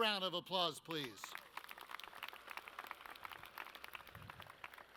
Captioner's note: audience claps